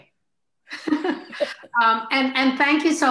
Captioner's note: laughs